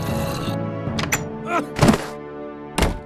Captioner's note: grunts